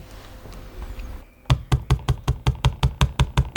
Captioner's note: knocking noises